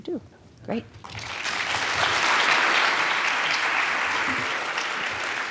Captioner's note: audience clapping